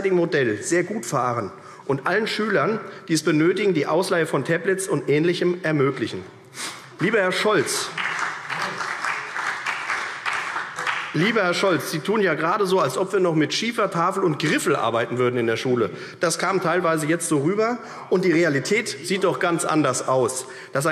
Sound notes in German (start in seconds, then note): 7.5 Beifall CDU